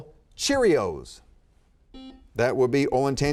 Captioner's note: buzzer beeping